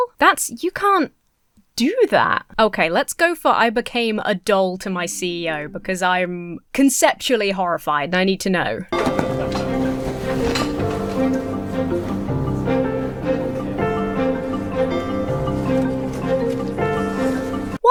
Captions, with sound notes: That's... You can't do that. Okay. Let's go for “I Became a Doll to My CEO” because I'm conceptually horrified and I need to know. (buoyant music) (chair rattles)